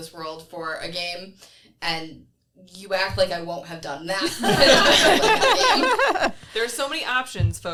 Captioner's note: everyone laughs